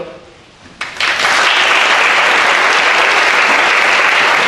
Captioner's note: audience applauds